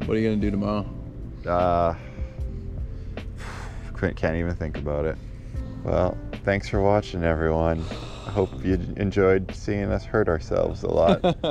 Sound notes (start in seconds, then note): 3.4 exhales audibly